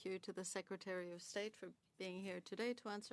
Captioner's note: speaking French